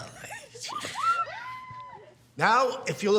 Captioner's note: girls giggling